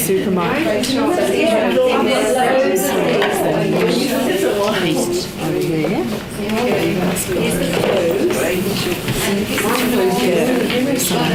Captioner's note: participant chatter